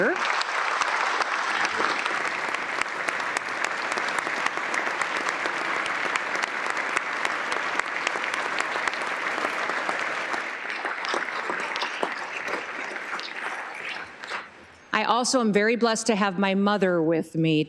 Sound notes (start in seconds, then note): 3.7 applause